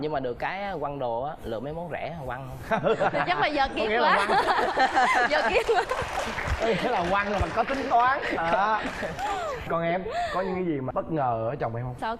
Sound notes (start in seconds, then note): 4.1 laughing and applause